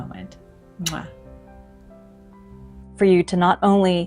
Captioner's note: smooching noise